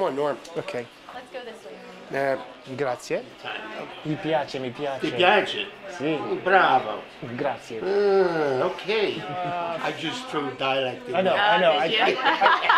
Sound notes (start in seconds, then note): 2.5 speaks Italian